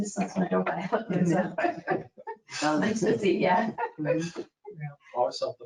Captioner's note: speaking faintly